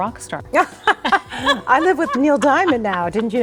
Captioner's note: both laughing